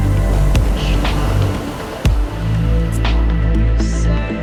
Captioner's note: breeze blows